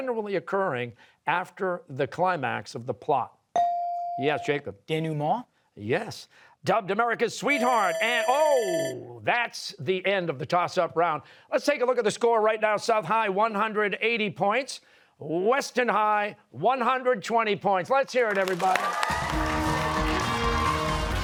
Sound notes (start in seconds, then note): 7.5 bell rings; 18.2 cheers and applause